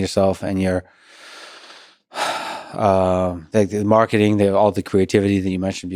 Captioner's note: sighs